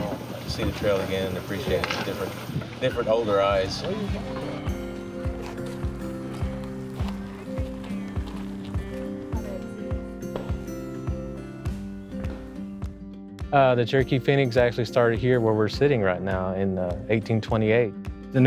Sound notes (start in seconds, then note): 3.9 riders chatting; 10.5 footsteps on wood floors